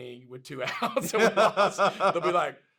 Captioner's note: both laugh